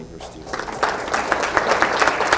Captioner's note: applause